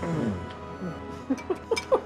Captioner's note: laughing